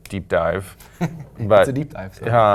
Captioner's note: laugh